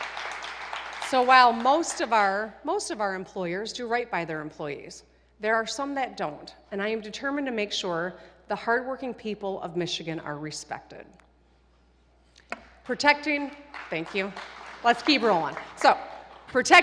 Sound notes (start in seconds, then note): 2.9 applause